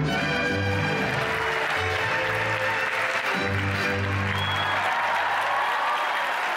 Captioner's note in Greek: χειροκρότημα